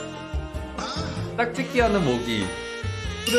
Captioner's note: mosquitoes mating